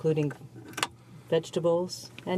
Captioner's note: speaking French